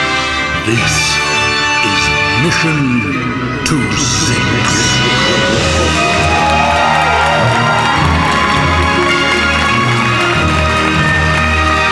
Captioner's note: audience cheers, applause